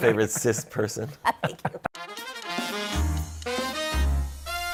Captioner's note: laughter